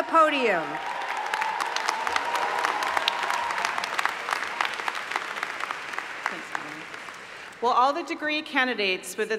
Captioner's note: applause